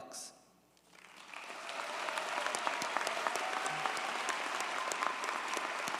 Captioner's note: audience cheers and applauds